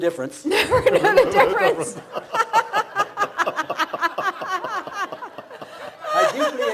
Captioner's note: laughs